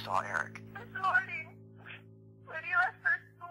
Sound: Kathleen On Phone

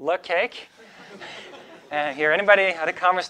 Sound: audience laughing

